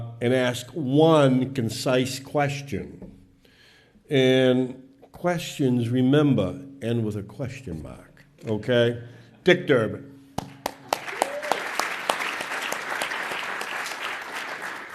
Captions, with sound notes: and ask one concise question. Questions, remember, end with a question mark, okay? Dick Durbin (claps). (audience applauds)